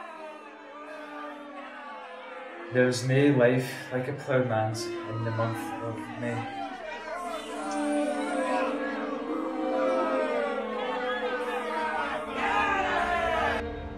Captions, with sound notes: *shouting and booing from audience* There's nae life like a ploughman's in the month...of...May. *Audience boos loudly*